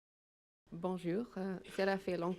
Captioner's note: audio begins in French